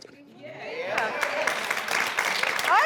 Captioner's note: applause